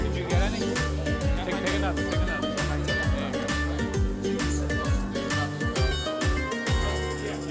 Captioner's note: people chatter indistinctly; upbeat Italian music